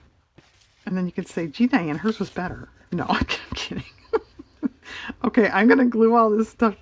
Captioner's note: laughs